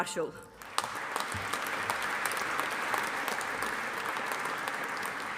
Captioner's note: audience applauding